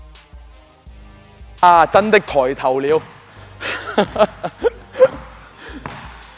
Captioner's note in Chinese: 欣慰的笑